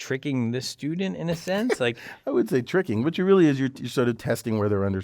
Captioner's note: laugh